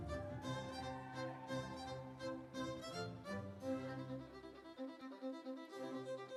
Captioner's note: audience cheering; instrumental music